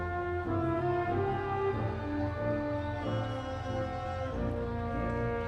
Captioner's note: audience cheering